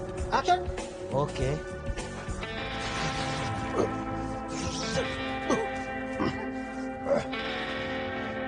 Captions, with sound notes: Action. Okay. (actor making kung fu fighting noises)